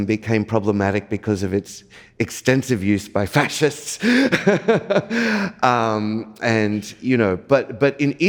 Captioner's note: laughs